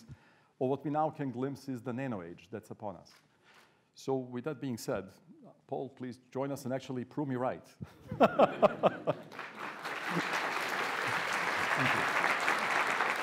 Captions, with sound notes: of what we now can glimpse as the nano age that's upon us. So, with that being said, Paul, please join us and actually prove me right. (audience laughing) (audience applauding) - Thank you.